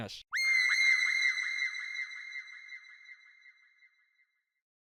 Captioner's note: woman screaming